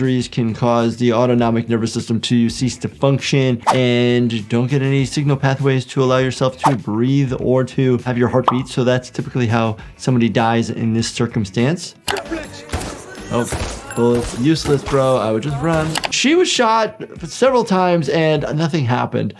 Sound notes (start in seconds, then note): 12.6 gun firing